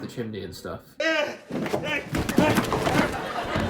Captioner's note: groans